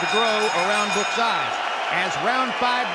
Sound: bell dinging

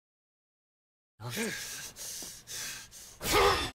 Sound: heavy breathing

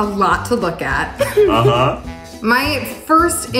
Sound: chuckling

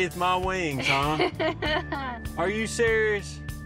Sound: laughs

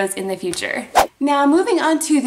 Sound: whooshing

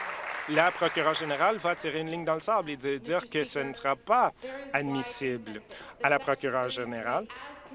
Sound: applause

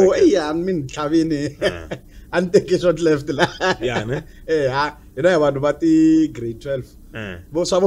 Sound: laughs

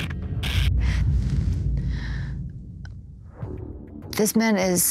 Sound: inhales sharply

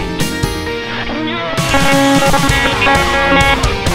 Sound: cough

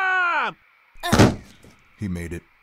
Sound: thud

